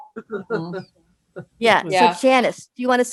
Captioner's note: laughs